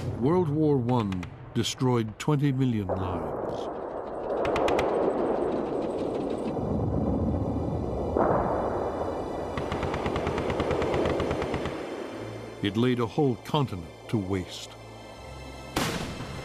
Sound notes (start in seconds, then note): 5.1 gunfire